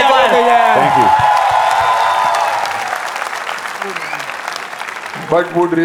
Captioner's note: crowd applauding